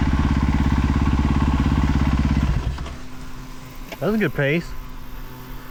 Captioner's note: engine revving